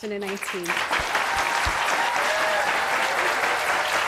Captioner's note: applause